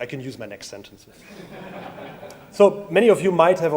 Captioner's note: audience laughs